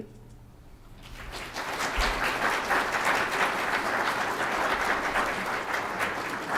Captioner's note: applause